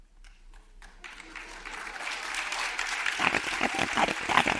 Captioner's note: audience applauds